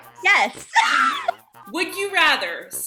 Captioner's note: laughter